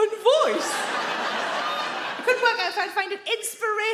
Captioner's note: audience laughing